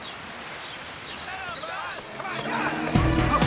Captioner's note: crowd shouting